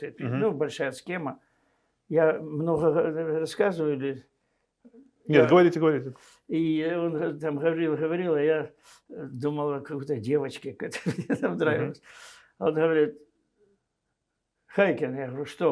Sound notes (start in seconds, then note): 10.8 laughing